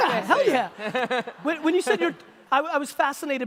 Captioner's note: laughing